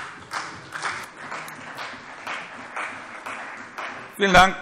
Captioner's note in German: Beifall CDU und vereinzelt BÜNDNIS 90/DIE GRÜNEN